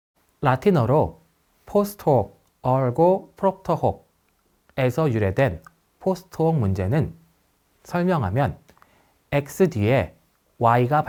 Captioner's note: Latin